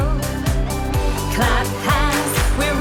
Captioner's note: clap, clap